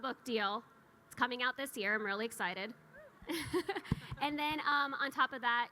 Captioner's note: chuckles